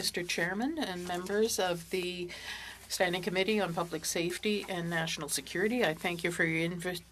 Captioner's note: speaking French